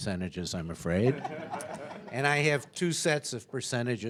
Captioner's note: audience chuckling